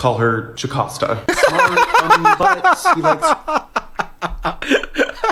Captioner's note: laughs